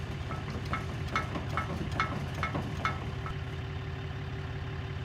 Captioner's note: metal clinking